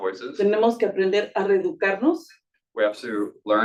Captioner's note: speaking Spanish